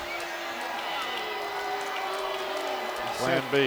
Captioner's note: audience jeers